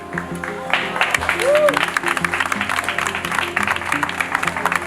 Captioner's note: crowd clapping